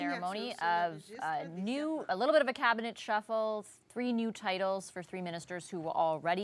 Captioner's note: speaking french